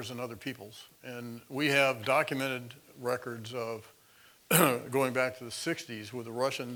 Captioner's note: cough